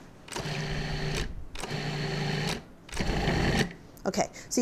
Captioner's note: mixer whirring